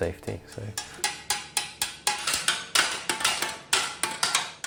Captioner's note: hammers thudding